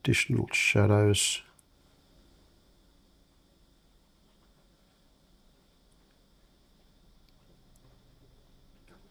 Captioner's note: silence